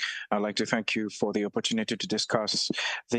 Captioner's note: speaking French